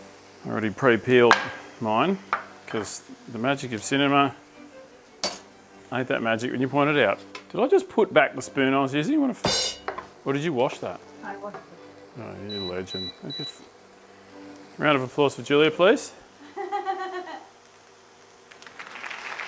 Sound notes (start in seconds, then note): 16.4 laughing; 18.5 applause